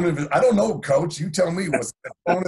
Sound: coach laughing

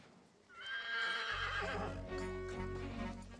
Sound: hoe rsneighing

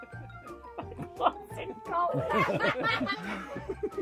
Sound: laughter; laughs; laughter

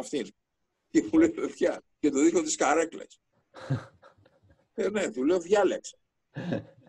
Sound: laughing

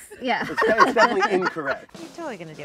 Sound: everyone laughs

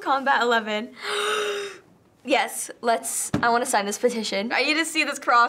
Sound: gasps

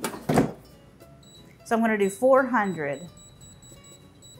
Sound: air fryer beeping

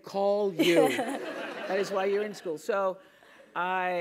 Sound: laugh; laughing

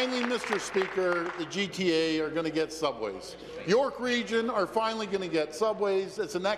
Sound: applause

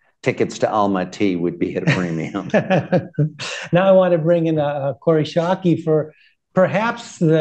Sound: laughter

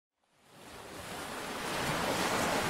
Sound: waves

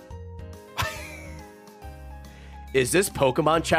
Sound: laughs

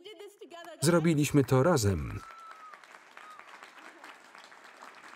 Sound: audience applauding

